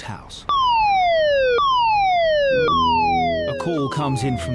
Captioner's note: alarm blaring